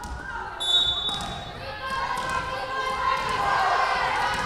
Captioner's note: whistle blowing